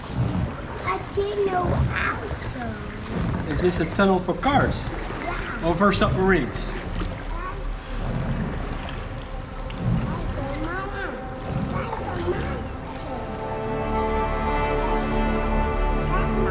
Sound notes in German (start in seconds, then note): 1.2 spricht Holländisch; 8.2 Tunnelecho